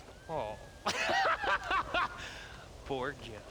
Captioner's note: laughs